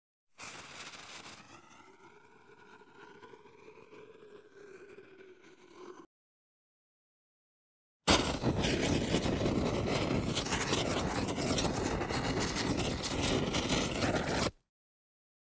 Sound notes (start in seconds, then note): 0.4 lit fuse sound effect; 8.1 lit fuse sound effect